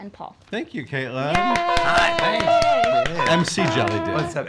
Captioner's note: cheering